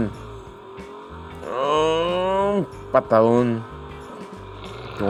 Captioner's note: engine revving; engine roaring